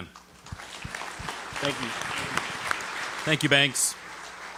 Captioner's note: audience applauding